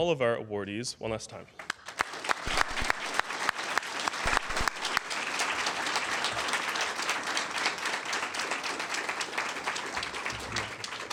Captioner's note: applause